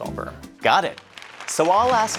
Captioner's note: audience applauding